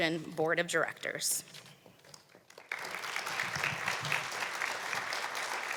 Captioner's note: applause